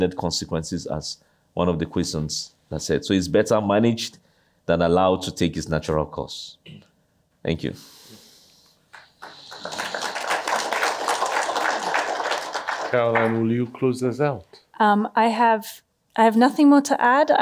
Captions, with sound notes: consequences, as one of the questions said. So it's better managed than allowed to take its natural course. Thank you. [APPLAUSE] Caroline, will you close us out? I have nothing more to add.